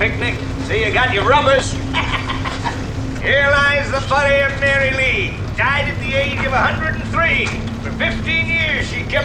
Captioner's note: laughs